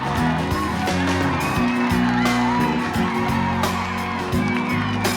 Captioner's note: clapping and cheering